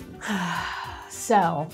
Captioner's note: sighs